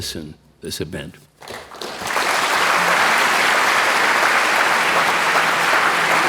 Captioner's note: applause